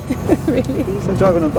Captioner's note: laughing